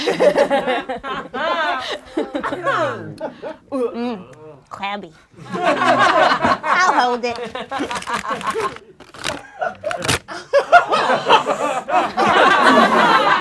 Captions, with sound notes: (laughing) Mn, crabby. (laughing) I'll hold it. (rips) (laughing)